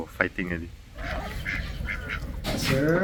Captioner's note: ducks quacking